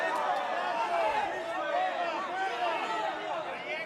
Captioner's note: cheering